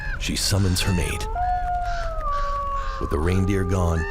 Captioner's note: bird squawking; wolf howls